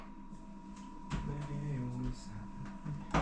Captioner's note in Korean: 흥얼//